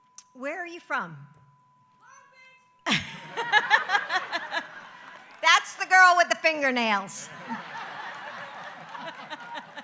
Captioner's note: applause